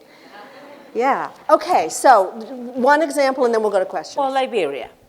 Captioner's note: laughter